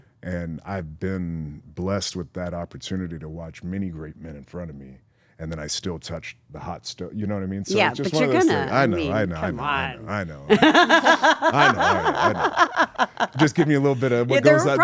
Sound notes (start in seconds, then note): 11.0 laugh